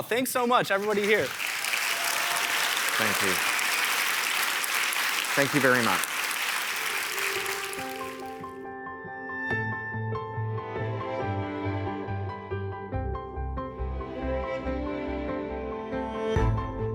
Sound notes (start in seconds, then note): 3.7 audience applauding; 7.6 gentle dramatic music